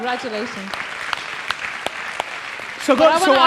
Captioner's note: audience cheers and applauds